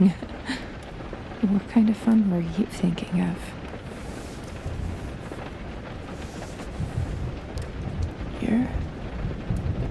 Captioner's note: there's a gentle rustle of clothes